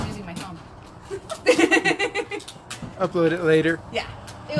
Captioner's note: laughs